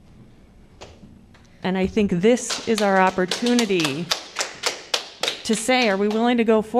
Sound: applause

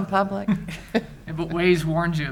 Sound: chuckles

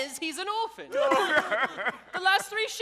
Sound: all sobbing

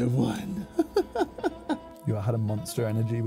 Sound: laughs

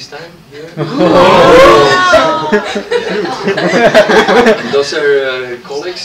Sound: laughter

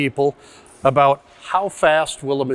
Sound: inhales

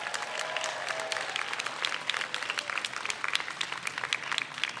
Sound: audience applauds

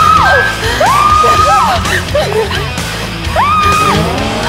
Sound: screaming loud

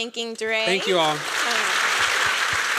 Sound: applause

